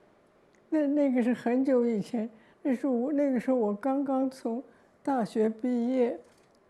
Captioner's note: Mandarin